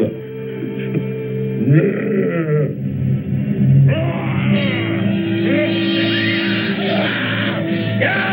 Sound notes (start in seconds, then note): 3.7 snarls